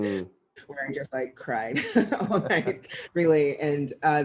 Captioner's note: laughs